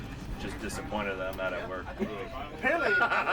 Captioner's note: laughs